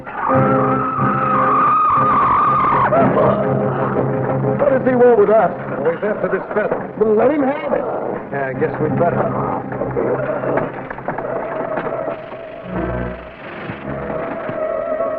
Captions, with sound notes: (serpent shrieking) (suspenseful music) - What does he want with us? - Well, he's after this feather. - Well, let him have it! (serpent growling) - Yeah, I guess we'd better. (serpent growls) (serpent rattling) (dramatic music)